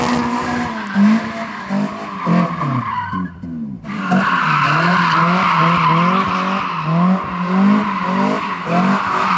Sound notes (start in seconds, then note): 1.7 car sounds